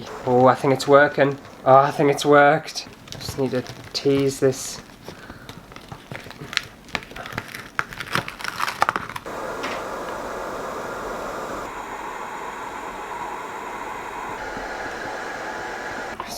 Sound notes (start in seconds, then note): 2.7 paper Crumpling